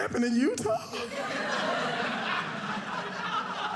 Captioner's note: audience laughing